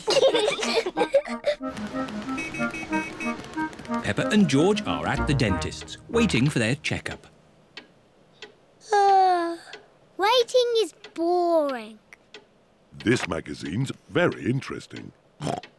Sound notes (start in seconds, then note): 0.0 both giggling; 8.8 yawns; 15.4 snorts